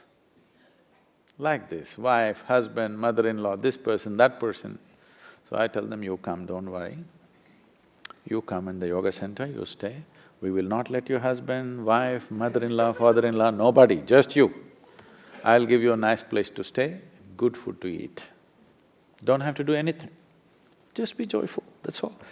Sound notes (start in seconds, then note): 12.3 few laugh